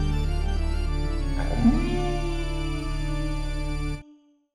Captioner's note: wolf howling